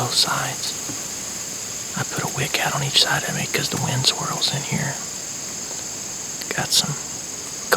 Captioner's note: whispering